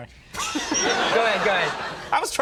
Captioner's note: audience laughing